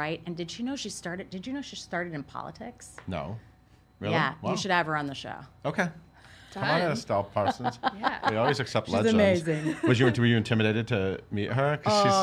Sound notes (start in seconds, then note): 7.4 laughs